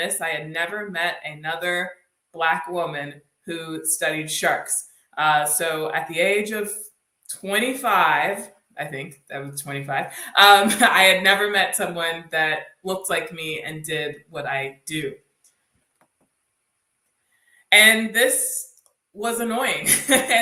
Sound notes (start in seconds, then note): 9.7 laughs; 19.7 laughs